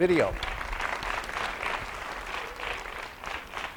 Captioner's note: applause